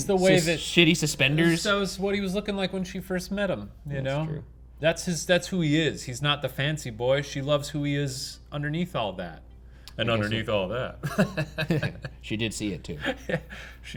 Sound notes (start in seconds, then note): 11.6 laughs